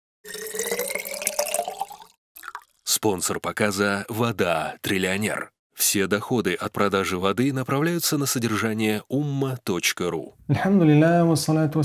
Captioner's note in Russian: Говорит на арабском